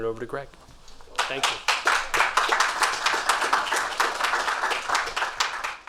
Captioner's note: audience clapping